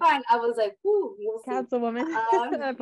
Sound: chuckle

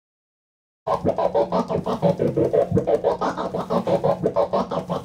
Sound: record scratching

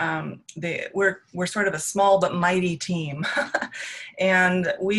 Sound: laughs

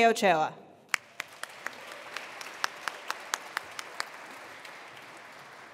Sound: attendees applauding

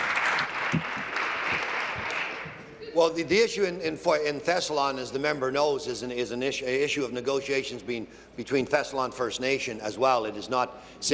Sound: applause

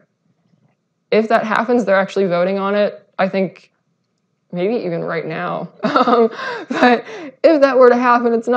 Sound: uncomfortable laughter

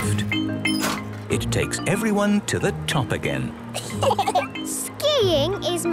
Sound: laughter

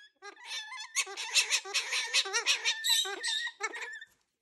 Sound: bird squawking

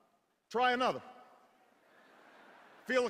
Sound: laughter

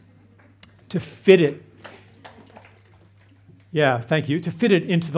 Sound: audience claps

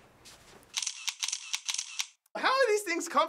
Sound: camera shutter clicking

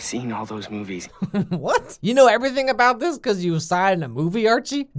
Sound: giggle

